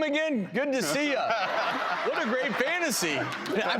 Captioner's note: laughing